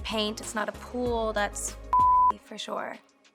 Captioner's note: beeps